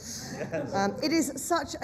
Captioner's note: laughter